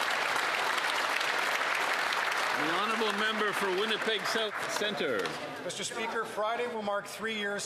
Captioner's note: some Applause